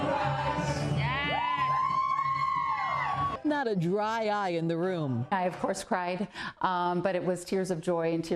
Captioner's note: cheering